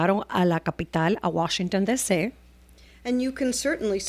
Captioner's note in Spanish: Hablando ingl\s